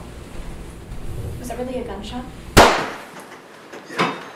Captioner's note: gunshot